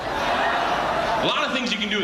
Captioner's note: audience laughing